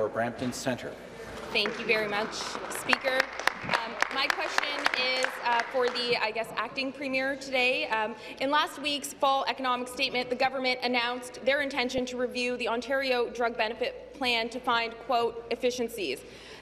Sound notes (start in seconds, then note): 6.5 applause